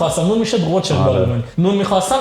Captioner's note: speaks German